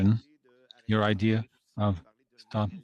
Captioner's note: speaking French